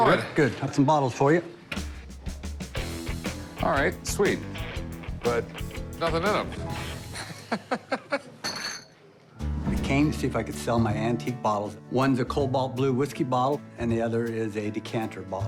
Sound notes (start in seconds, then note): 7.0 laughs